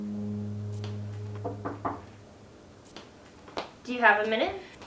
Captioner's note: Nancy knocks